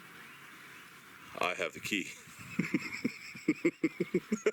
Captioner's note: laughing